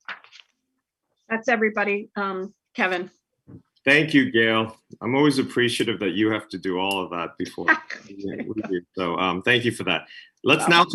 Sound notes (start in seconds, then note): 8.3 laughs